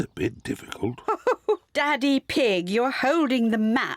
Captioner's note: chuckles